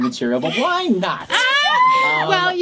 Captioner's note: laughter